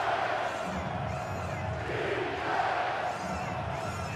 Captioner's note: crowd chanting